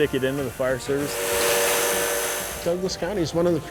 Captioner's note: welding